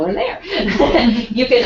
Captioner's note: laugh